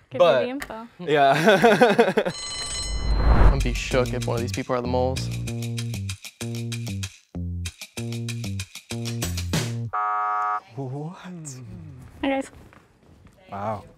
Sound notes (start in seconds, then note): 1.9 laughs; 2.2 bell rings